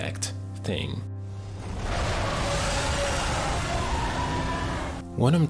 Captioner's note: dragon roaring angrily